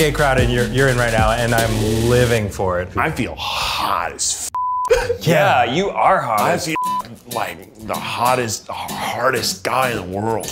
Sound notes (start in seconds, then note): 4.5 beeps